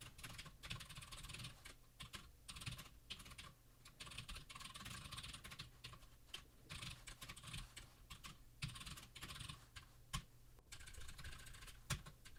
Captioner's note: typing sounds